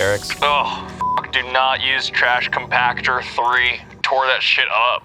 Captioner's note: beep